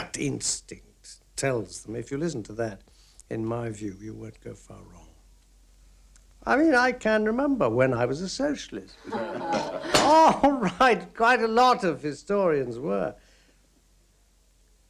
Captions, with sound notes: instinct tells them. If you listen to that, in my view, you won't go far wrong. I mean, I can remember when I was a socialist. [laughter] All right. Quite a lot of historians were.